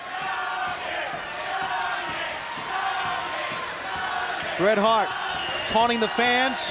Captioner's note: crowd cheering